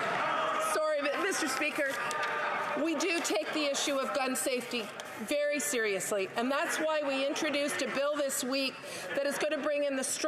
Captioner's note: applause